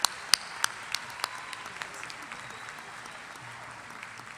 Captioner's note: applause